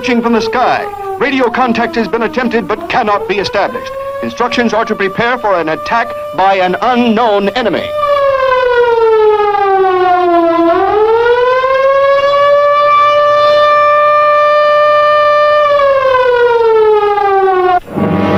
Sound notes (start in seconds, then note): 0.0 siren blaring; 0.0 tense music; 12.2 siren blaring; 18.1 worrying music